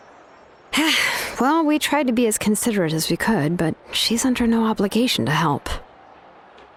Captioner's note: sigh